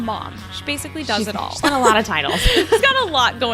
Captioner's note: laughs